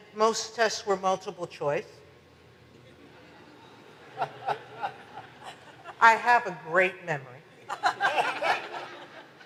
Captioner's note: audience laughs